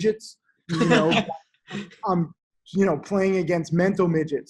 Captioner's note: laughter